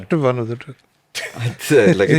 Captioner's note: laughs